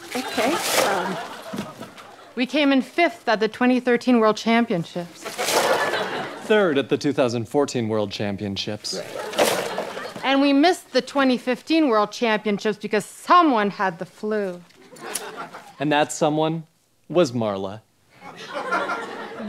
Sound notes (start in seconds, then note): 5.1 ribbon unfurling; 9.0 ribbon unfurling; 15.0 scissors snipping